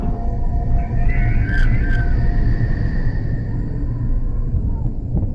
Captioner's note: Woodcrawler screeching